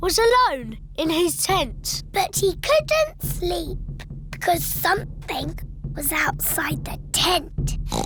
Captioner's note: oinks